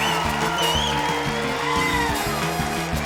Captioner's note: cheering, applause